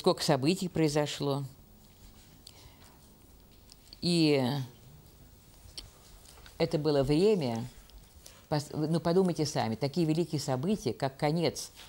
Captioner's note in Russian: пауза две секунды